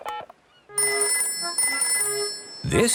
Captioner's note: dial tone; phone rings